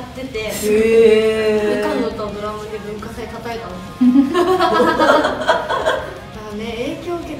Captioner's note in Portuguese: risos